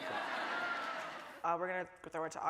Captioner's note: audience laughing